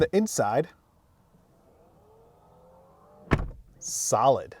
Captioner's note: car door whirring